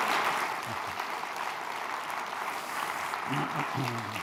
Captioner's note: applause